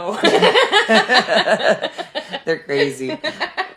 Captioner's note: laughing